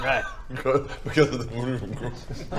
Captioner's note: mumbles